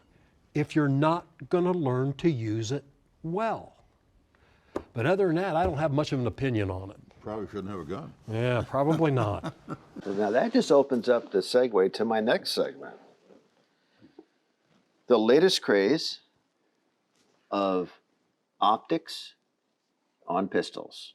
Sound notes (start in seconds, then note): 8.5 laughing